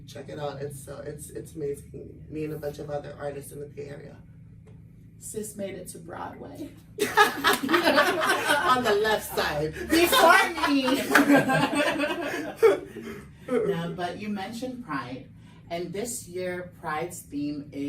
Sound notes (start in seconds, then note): 7.0 everyone laughs; 12.3 laughs